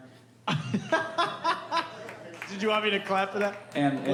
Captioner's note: laughing